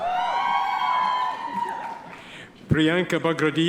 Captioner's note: audience members cheer